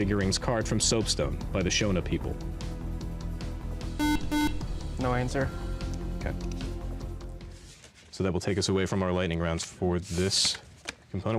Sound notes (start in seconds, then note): 4.0 buzzer